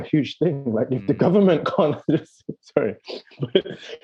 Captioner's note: laughing